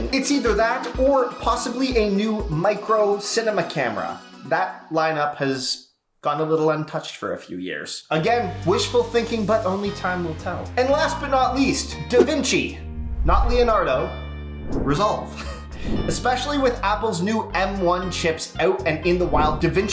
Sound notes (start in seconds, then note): 15.3 chuckles